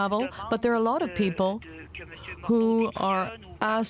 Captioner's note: speaking French